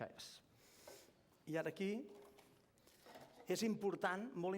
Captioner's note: non-english speech